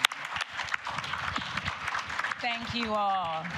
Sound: applause

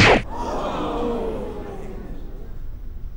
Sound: oohs

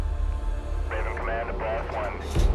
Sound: radio chattering

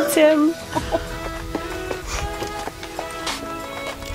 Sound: both laughing

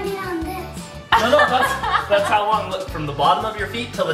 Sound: laughs

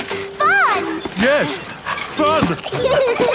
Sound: straining; peppa and george laughing

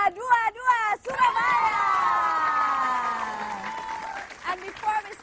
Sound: applause

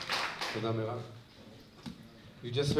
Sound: non-english

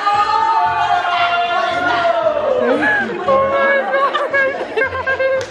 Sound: laughing

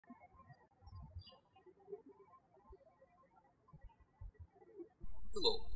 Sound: birds chirping

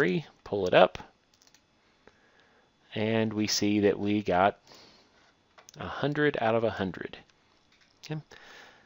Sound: clicking

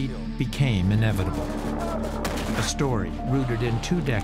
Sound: weapons firing

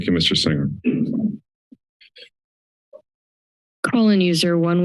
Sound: silence

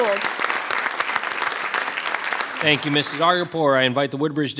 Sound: applause rings

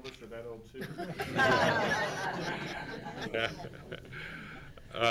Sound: laughing

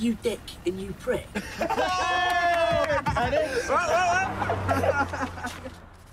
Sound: laughter

